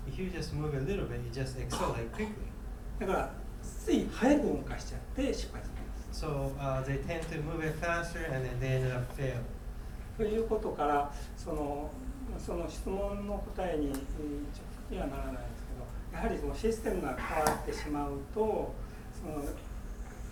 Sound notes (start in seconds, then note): 1.7 coughing; 3.0 speaking in foreign language; 10.3 speaking in foreign language; 17.1 coughing